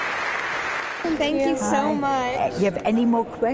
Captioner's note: applause